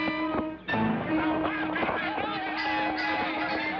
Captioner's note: men shouting